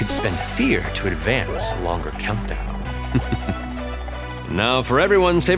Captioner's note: chuckles